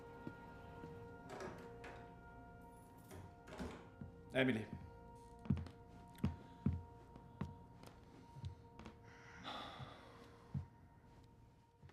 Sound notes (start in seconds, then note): 0.1 door opens, keys jingle, door closes; 9.2 sighs